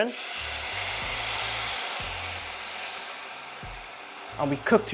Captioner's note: sizzling sound